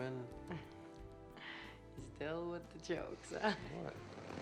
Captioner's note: chuckles